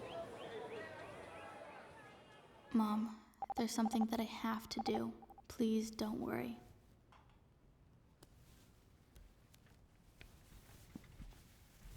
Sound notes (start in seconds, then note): 3.4 pager beeps